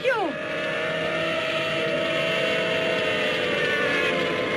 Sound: sirens wailing

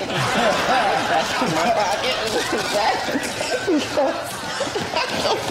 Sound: laughter

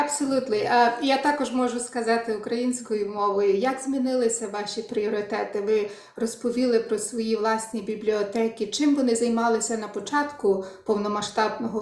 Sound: speaking ukrainian

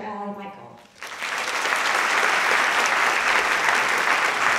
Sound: audience clapping

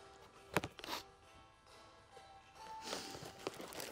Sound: sniffs

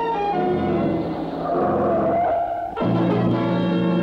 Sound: car Brakes Screeching

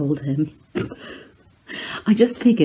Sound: giggles

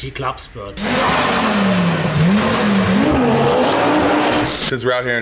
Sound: car engine revving

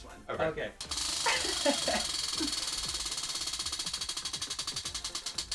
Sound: roulette spinning

